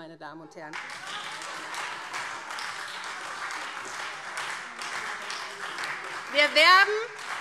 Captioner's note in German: Lebhafter Beifall SPD - Beifall Freie Demokraten - Zurufe